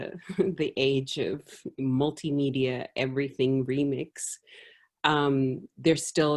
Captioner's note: laugh